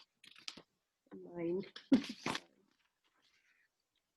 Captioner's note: chuckles